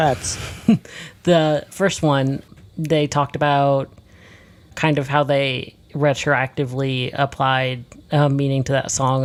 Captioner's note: laughs